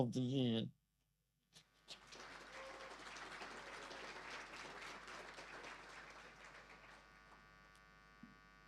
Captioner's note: applause